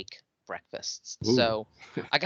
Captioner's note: chuckling